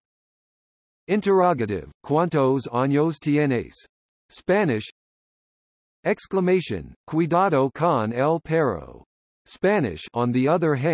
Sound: Spanish

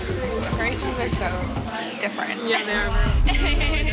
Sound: laughs

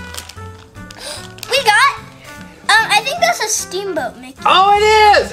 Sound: gasp

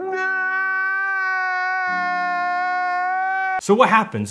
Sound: high pitched whining

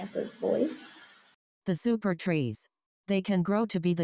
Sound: computerized voice

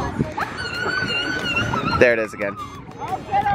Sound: screaming

